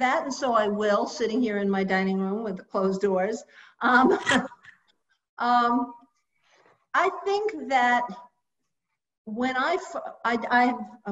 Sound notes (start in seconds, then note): 4.0 laughs